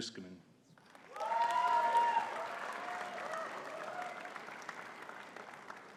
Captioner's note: audience cheering and clapping